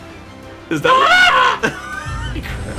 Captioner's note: shrieks